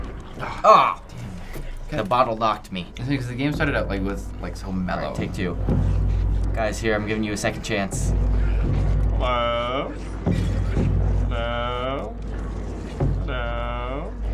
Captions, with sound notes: - (groaning) Damn. - The bottle knocked me. - Dude, the game started out so mellow. - Take two. Guys, here, I'm giving you a second chance. - Hello. (wine bottle shattering) - No. No.